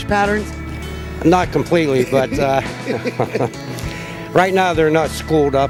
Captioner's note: chuckling